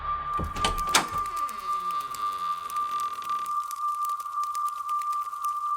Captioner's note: butterfly wings flapping